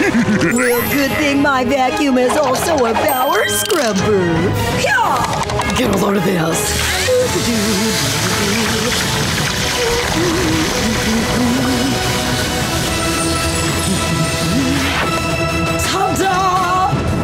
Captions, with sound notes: Well, good thing my vacuum is also a power scrubber. Get a load of this. [happily humming] [humming continuing] Ta-da!